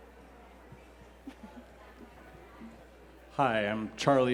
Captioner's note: Phoebe laughs